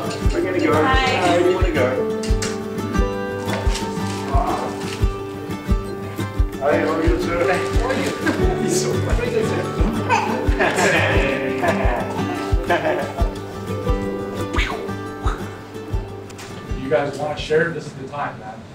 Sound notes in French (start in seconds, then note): 9.2 Rires